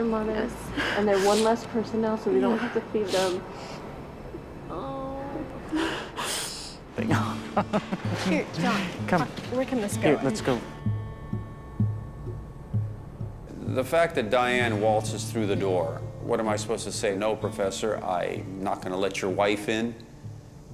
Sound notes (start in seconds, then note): 5.8 crying; 7.0 chuckles